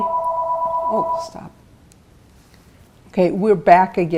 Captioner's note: phone ringing